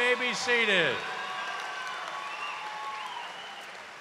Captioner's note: cheers and applause